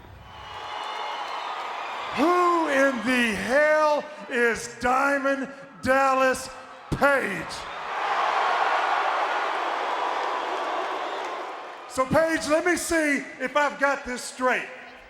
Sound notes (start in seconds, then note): 0.0 audience cheering; 8.0 crowd clamoring